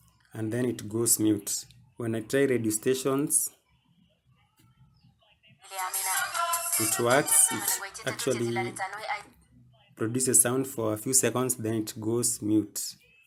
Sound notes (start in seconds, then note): 5.6 radio sound